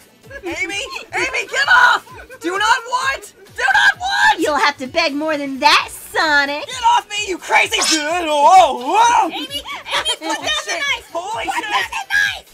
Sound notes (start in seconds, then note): 0.2 Amy giggling; 9.4 Amy laughing maniacally